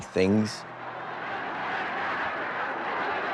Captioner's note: chanting